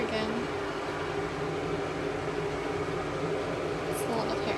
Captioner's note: whirring bathroom fan sounds